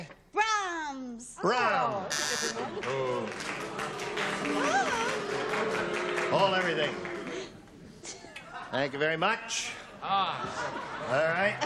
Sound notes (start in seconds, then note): 2.0 buzzer; 3.4 booing